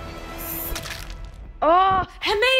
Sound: squelching

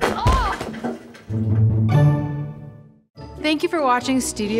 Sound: Mary crashing down

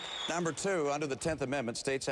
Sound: applause

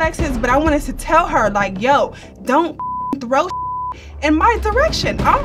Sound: beep

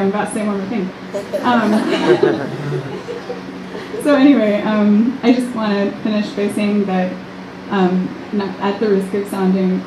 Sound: audience cheering and applause; laughs

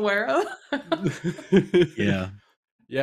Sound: laughter

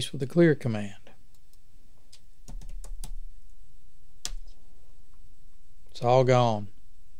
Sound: clicks

